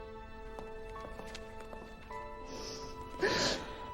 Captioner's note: sobs